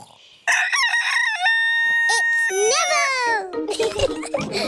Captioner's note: neville crows; both giggling